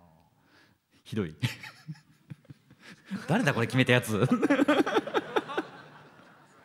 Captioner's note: laughter